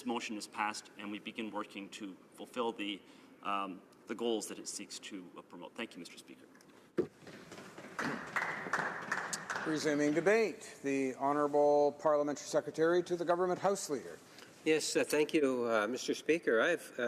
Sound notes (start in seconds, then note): 11.3 applause